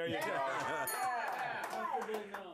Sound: all cheer; bell rings

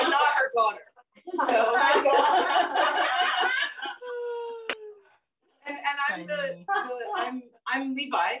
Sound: laughter

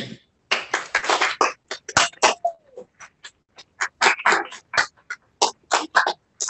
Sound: applause

